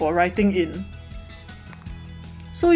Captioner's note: mic touch